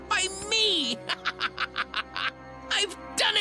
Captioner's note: Tobey cackles evily